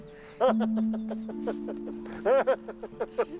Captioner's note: laughing